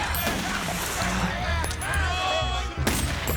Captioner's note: yelling Continues; gunfire; gunfire Continues